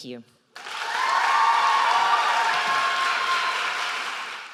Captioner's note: audience cheers loudly